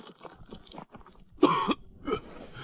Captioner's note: cough